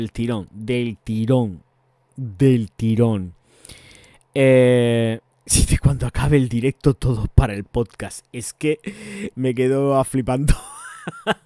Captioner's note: laughs